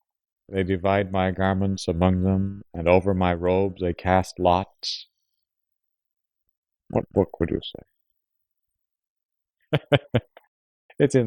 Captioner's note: laughs